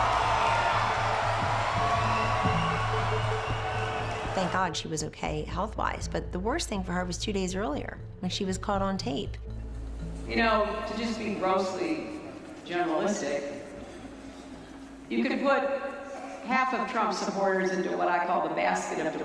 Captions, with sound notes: Give me a break. Give me break. (crowd cheering) (cheers intensify) - Thank God she was okay health wise. But the worst thing for her was two days earlier. And she was caught on tape. - You know, to just be grossly generalistic